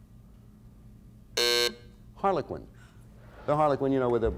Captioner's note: buzzer sounds